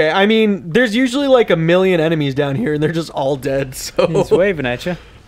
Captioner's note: laughs